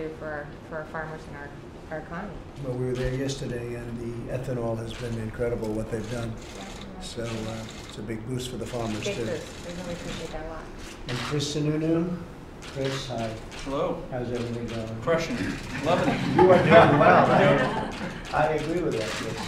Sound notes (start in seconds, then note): 15.6 laughter